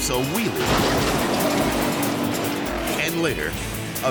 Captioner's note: car clanks